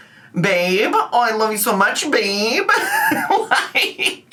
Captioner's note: laughs